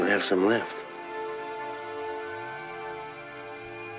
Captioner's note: siren wailing